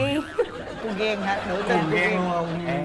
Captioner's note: laughing